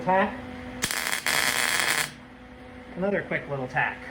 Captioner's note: buzzing